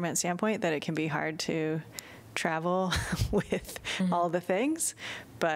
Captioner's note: laughter